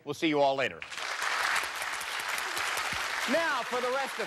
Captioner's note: applause